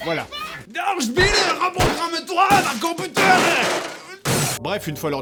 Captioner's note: german accent